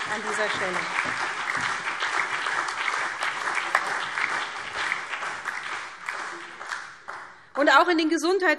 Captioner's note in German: Beifall SPD, vereinzelt CDU, BÜNDNIS 90/DIE GRÜNEN und DIE LINKE